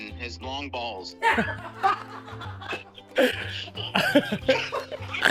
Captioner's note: all laughing